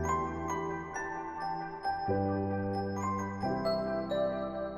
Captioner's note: bell